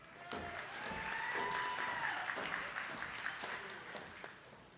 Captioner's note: attendees clapping